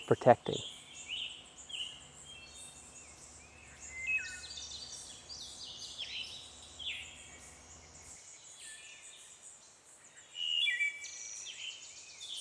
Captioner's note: bird Sounds